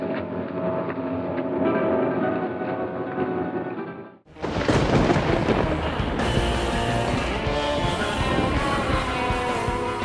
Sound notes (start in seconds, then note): 4.3 lightning strikes; 6.9 spooky rock music